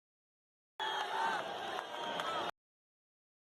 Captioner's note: crowd Cheering